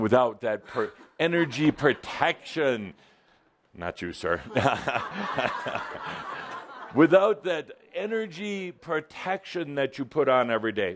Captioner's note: laughter